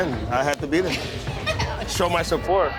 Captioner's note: woman laughing